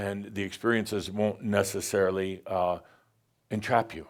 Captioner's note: none